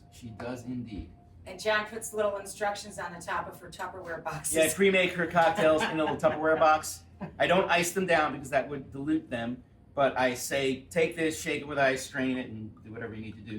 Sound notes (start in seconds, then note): 7.1 Rachael laughing